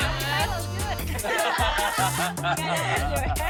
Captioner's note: laughs